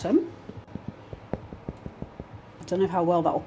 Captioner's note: tap tap tap